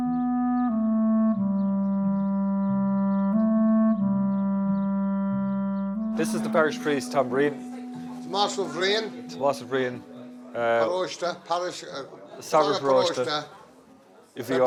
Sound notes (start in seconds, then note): 0.3 peaceful clarinet music; 9.9 speaking Gaelic